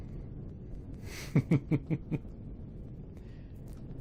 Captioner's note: laughs